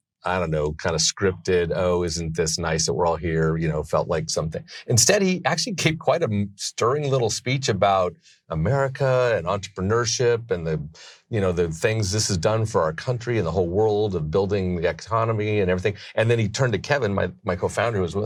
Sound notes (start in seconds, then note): 4.6 laughs